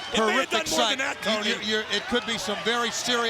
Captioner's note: overlapping chatter